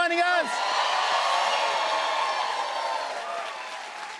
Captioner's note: cheers and applause